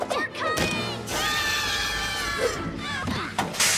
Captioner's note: both scream